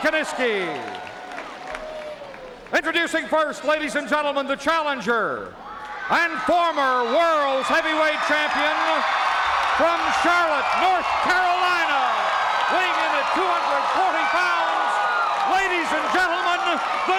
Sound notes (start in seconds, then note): 0.0 crowd applauds; 5.4 crowd cheers